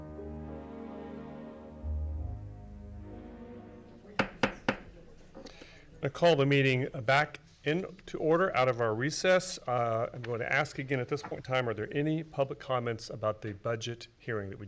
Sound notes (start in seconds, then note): 4.2 gavel hammering